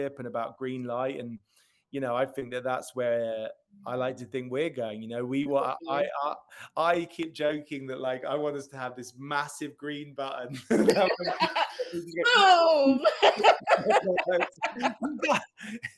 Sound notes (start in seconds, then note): 10.6 laughs